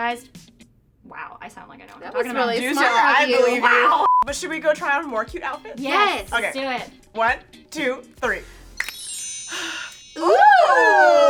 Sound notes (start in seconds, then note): 4.0 beep; 8.8 shimmering bells